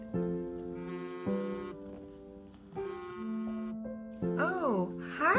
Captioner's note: phone buzzing